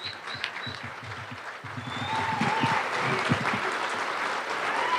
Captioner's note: audience applauding